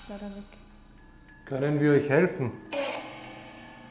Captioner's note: none